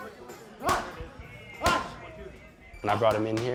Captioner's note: shouting